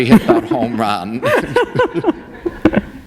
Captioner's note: laughter